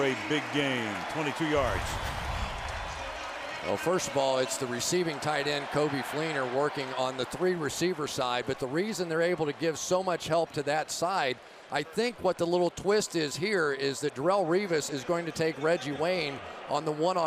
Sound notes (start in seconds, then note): 3.5 pa announcement